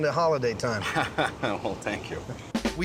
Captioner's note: laughing